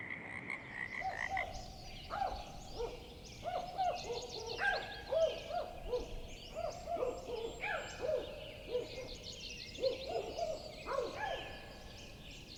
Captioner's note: croaking frogs; several spotted owls calling and hooting